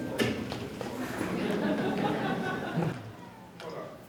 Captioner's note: laughter